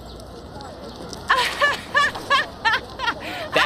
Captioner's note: laughs